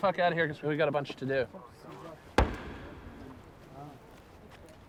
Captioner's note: weapons firing in distance